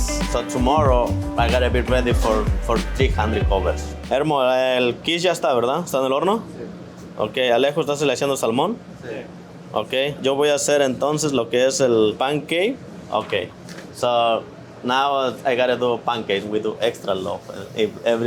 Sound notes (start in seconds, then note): 4.3 speaking Spanish